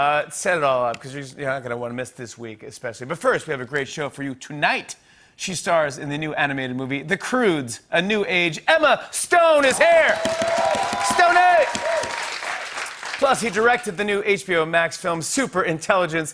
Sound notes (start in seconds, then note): 9.6 cheers and applause